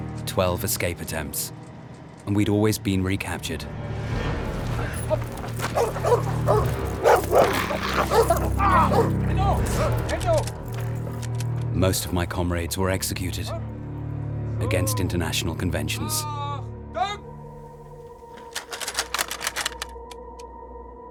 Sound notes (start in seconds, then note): 4.9 dogs barking; 7.2 dog growls; 7.2 screams